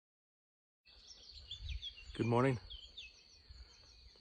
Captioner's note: birds chirping